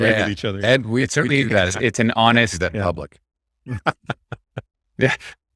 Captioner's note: laughing; laughing